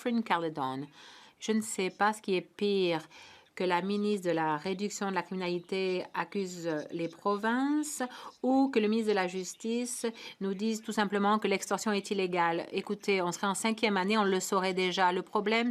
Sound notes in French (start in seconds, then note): 3.5 voix de l'interprète